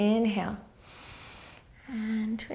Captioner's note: inhaling